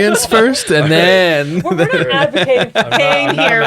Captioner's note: laughs